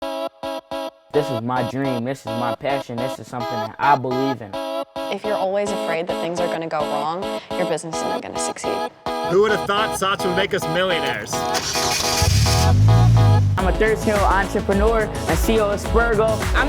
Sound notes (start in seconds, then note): 1.2 lively techno music; 11.6 engine revving; 11.6 lively techno music